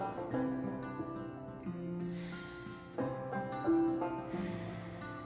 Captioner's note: soft breathing